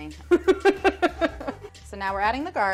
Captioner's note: laughing